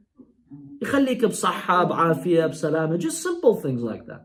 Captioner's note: Arabic